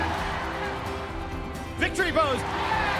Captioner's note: cheers